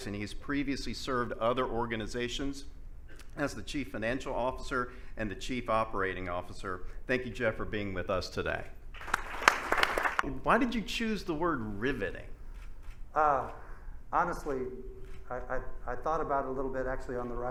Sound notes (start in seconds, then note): 9.0 audience applauds